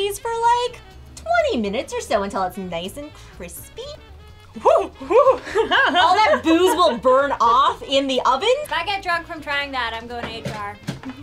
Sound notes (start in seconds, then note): 4.5 exclaims and laughs